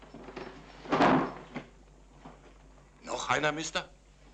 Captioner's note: body thuds